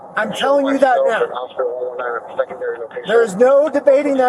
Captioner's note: radio chatter